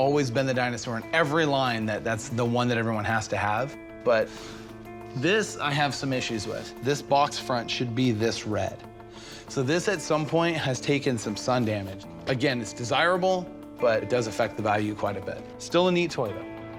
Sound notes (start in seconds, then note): none